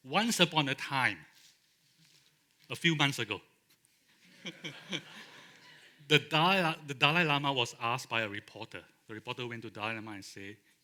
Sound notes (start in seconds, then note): 4.2 laughter